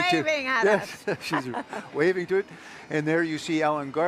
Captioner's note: laughs